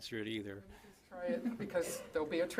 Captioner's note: chuckling